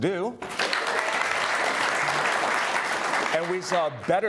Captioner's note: audience applauding